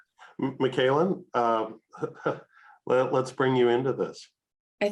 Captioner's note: chuckles